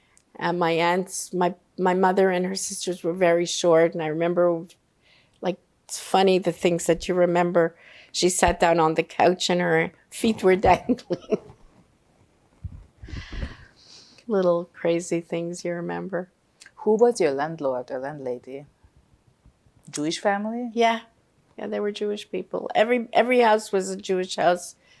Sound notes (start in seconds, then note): 10.5 laughing